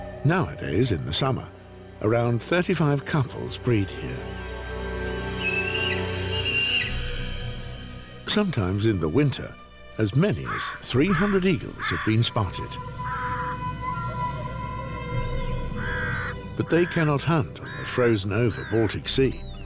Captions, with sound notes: Nowadays, in the summer, around 35 couples breed here. [eagles cawing] Sometimes in the winter, as many as 300 eagles have been spotted. But they cannot hunt on the frozen-over Baltic Sea.